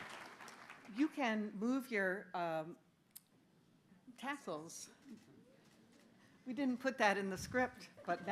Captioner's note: applause